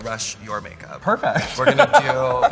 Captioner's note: laughs loudly